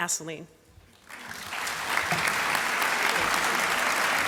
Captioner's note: applause